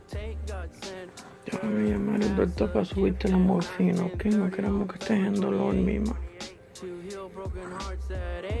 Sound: speaking Spanish

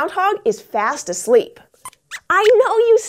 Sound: squeaks squeaks

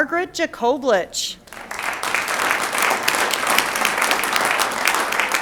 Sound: audience applauds

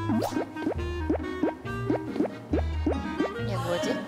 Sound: waddling

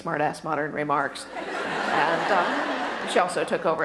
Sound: audience laughter

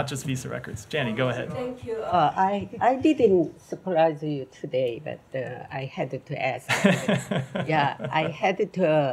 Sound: laughter

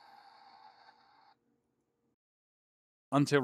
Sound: steam generator goes silent

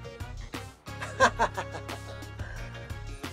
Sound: laughs

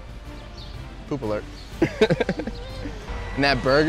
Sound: laughs

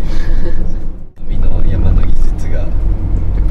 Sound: car

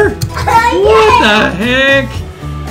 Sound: laughing

